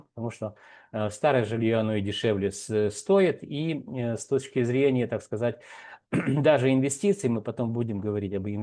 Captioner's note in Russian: откашливается